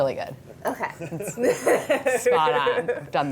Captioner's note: all laughing